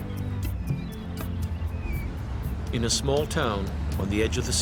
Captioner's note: voiceover